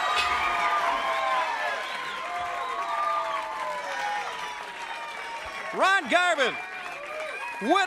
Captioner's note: crowd cheering